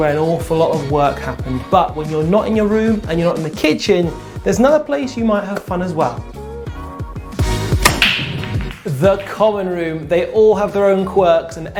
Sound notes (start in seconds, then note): 5.7 upbeat music; 7.5 balls hitting